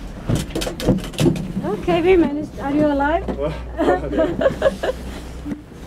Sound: laughs

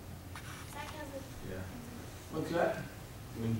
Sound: student mumbling

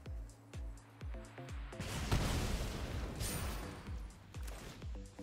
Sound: explosion

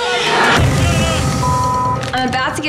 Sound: beep

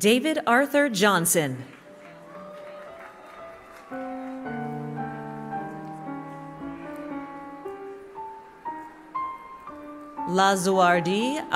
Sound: applause

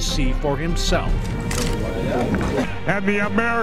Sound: camera shutter clicking

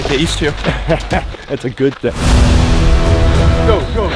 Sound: laughing

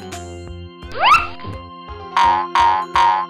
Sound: slide whistle; feet boinging

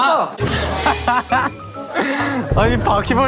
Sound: bursts out laughing

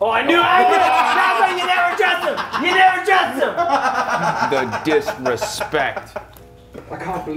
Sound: laugh

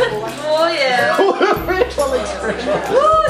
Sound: laughing

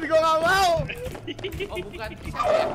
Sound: laugh

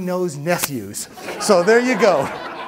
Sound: everyone laughs

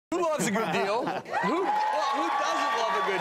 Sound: cheering and clapping

